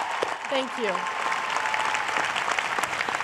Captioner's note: cheers and applause